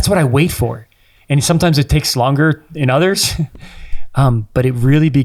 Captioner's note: chuckles